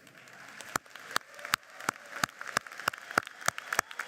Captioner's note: applauding